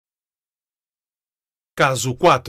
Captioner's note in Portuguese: Voz masculina